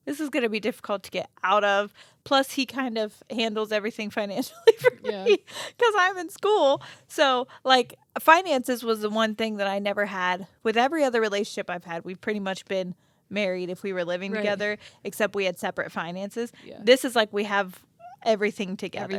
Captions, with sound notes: "This is gonna be difficult to get out of." Plus he kind of handles everything financially for me (laughs) 'cause I'm in school. So finances was the one thing that I never had. With every other relationship I've had, we've pretty much been married if we were living together, except we had separate finances. This is like, we have everything together.